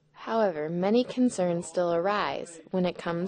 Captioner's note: voiceover